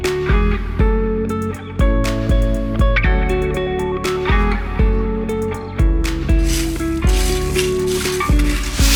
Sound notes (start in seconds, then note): 6.4 scratching noises